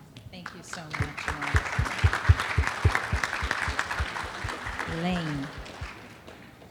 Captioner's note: audience applauding